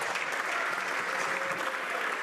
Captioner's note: some Applause